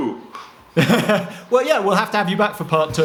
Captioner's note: laughs